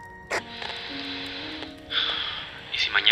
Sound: sighs

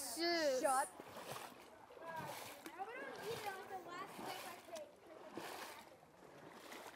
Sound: chatter , laughter, splashing fades out

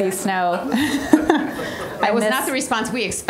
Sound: all laughing; audience laughing

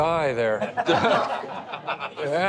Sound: laughter

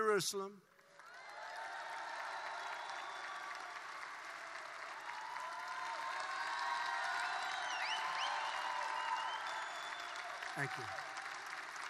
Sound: applause

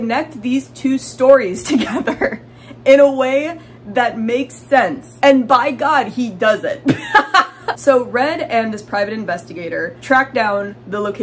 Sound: laughing

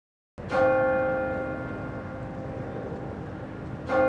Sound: bell tolling

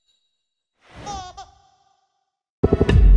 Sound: baby laughs

